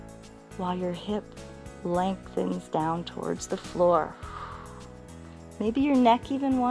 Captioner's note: exhales